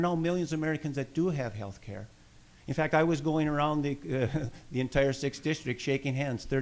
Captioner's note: laughs